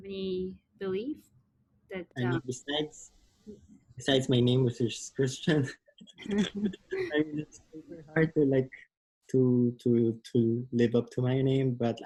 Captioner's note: laughs